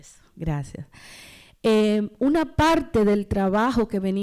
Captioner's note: speaking spanish